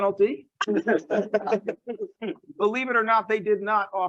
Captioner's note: laughs